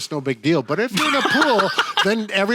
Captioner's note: laughing